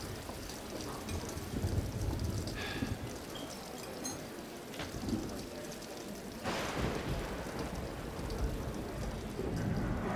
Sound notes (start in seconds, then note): 2.5 sighs